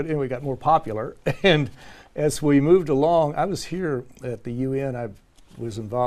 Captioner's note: laugh